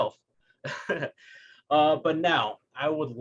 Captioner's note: laughing